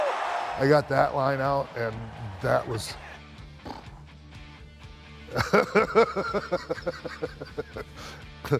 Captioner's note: laugh